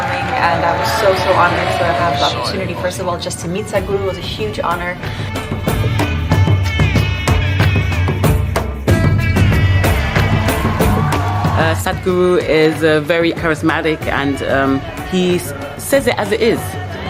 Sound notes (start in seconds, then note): 10.4 claps